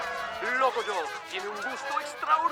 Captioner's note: narrator speaking Spanish